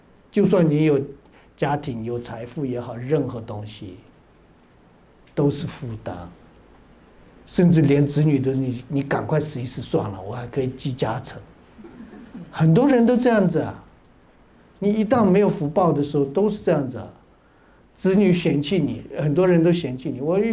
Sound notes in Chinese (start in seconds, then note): 11.8 哈哈哈